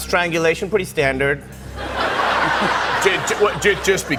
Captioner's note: laughter